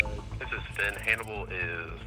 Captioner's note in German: Voiceover